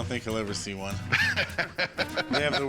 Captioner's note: laughs